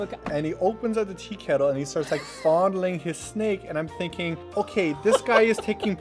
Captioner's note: laughs